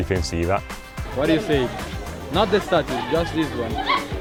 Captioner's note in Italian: Inglese